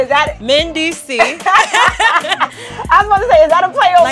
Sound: laughter

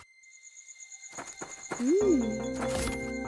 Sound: insects chirping

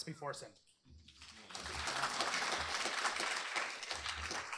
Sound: applause

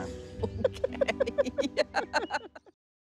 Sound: laughter

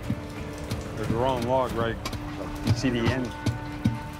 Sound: thudding on wood

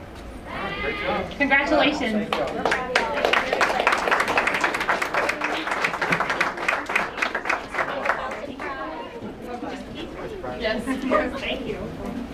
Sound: applause

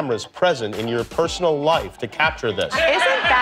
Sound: audience laughter

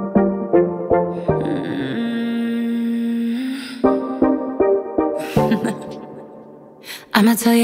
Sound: laughs

